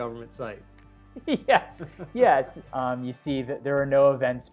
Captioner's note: laughing